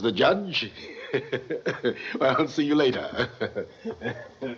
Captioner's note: chuckles